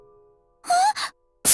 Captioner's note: gasp